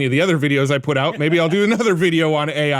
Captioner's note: hosts laughing